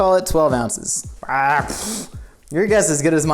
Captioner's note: exclaims loudly